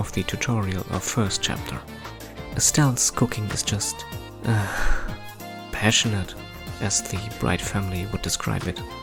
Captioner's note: sigh